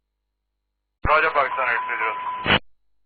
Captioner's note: background cockpit alarm